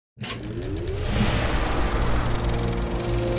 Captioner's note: film reel spooling up